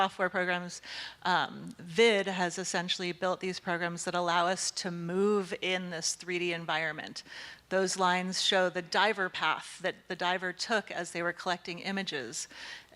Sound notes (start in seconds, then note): none